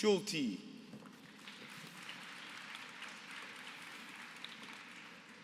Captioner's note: applause